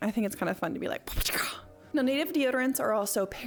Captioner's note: making sound effects